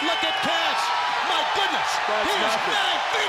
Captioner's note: crowd cheering